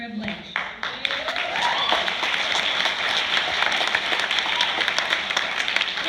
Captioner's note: applause